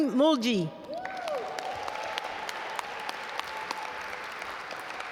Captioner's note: audience applaud